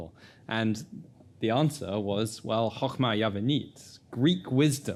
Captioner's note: speaking in foreign language